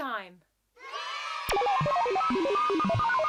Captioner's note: cheers; electro beeps